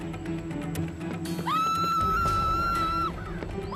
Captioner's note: screaming